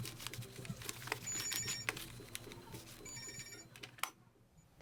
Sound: store phone rings

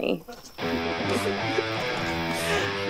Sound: heavy rock electric guitar instrumental; laughter

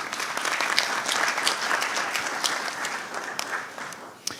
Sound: audience applauds

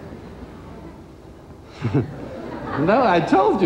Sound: crowd laughs

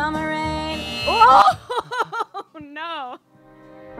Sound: adorkable laughter...again

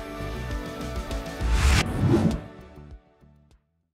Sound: upbeat electronic music continues; graphics whoosh

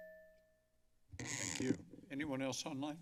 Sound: mic crackling

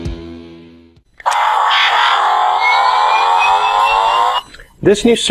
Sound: ARC reactor powers up

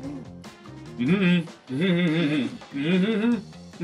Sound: humming

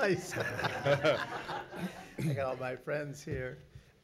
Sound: laughing

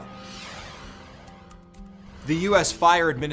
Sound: logo swishes

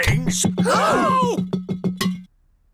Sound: all gasp

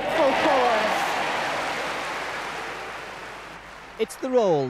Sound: cheering and clapping

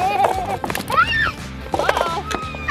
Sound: screams

